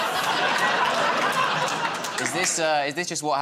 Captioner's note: laughter